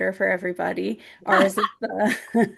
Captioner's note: chuckles; laughs